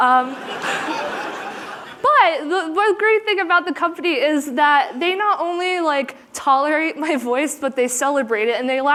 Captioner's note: laughter